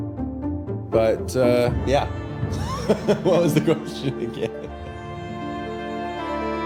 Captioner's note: laughing